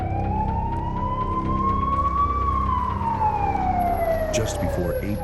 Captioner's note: police siren wailing